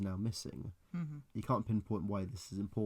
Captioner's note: understanding hum